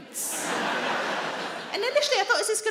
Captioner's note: audience laughing